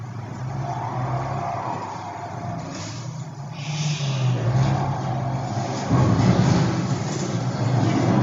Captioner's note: tires skidding